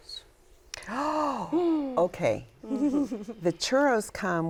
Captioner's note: gasps